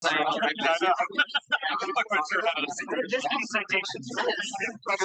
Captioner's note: background chattering